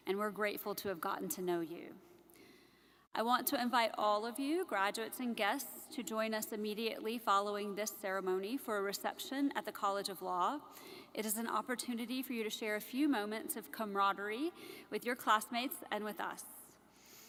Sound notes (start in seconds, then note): none